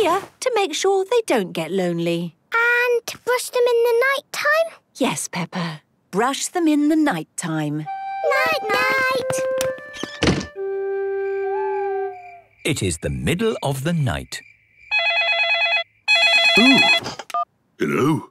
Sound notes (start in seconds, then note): 11.0 owl hooting; 16.0 phone ringing